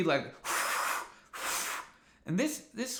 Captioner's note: exhales